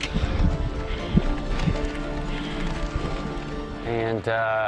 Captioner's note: breathing deeply